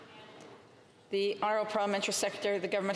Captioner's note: speaking French